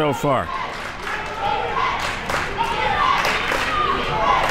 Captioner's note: crowd chanting